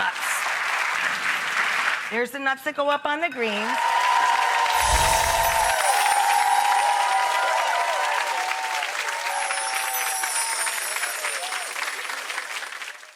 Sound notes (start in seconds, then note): 0.0 audience clapping; 3.8 audience cheering